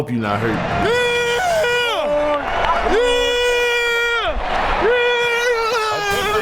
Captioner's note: yelling